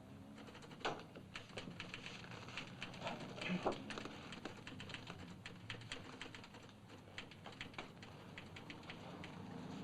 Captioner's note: typewriter chattering